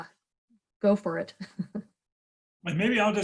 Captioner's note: laughing